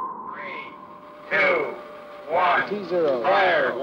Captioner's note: archive Sound- Countdown